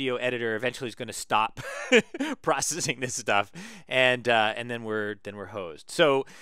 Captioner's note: laugh